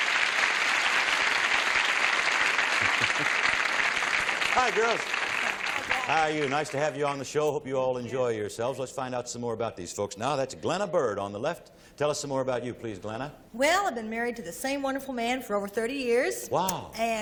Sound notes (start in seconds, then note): 0.0 applause